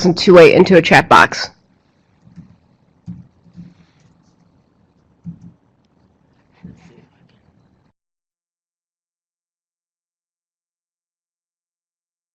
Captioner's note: long silence, typing